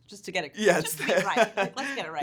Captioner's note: laughing